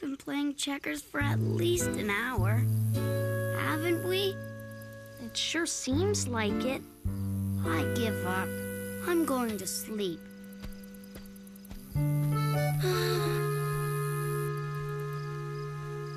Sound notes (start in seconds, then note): 13.5 sigh